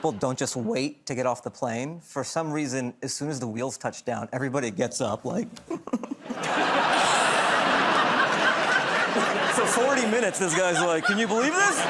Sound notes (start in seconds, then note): 5.6 laughter